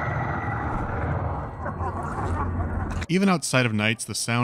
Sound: monstrous snarls; malevolent laughter

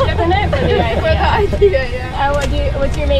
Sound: laughing

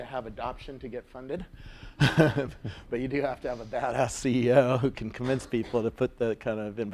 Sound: laugh

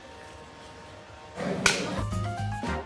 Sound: clacks; upbeat music

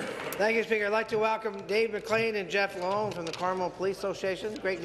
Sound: applause

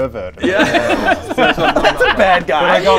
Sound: laughs

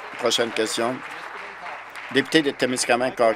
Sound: applause

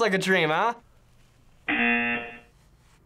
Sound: buzzer

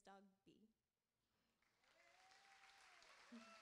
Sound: applauding

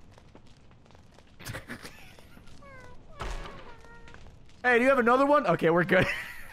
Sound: laughs

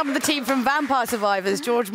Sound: applause

